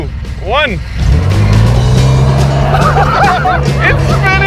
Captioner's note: engine roaring; laughing